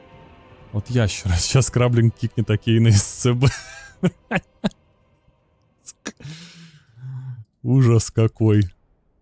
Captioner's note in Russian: смех